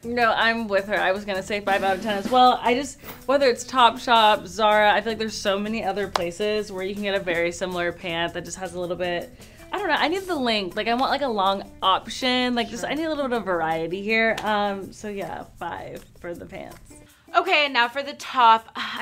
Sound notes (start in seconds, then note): none